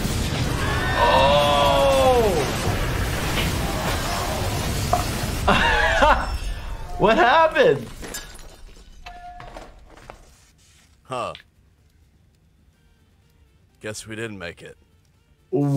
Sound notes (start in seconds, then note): 2.7 laughs